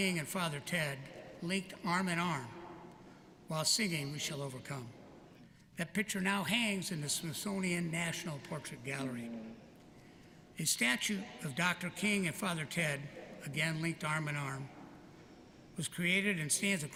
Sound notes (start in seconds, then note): none